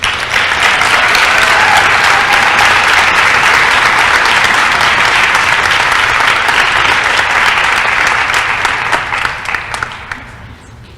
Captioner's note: applause & cheering